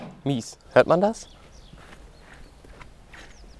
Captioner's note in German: Matschige Schritte